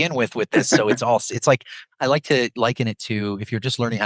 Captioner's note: laughs